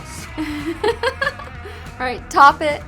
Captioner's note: laughing